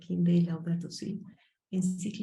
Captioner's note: speaking Spanish